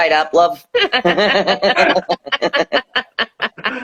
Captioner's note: laughing